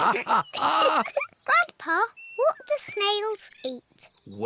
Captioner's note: both laugh; laughs